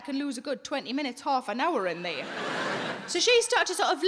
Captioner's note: audience laughing